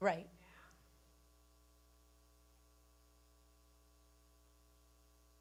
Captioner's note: person speaking away from mic